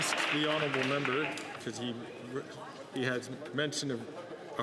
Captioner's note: some Applause